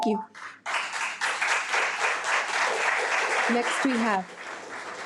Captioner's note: audience applauding